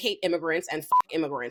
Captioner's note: beep